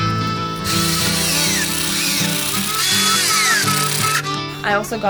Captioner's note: drill whirring